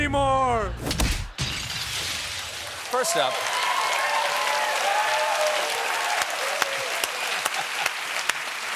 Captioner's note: applause